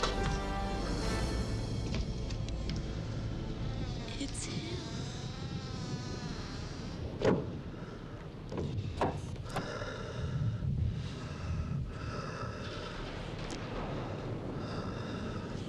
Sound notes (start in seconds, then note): 0.1 latch clunks; 1.6 door creaking; 7.1 door thuds; 7.4 giant breathing heavily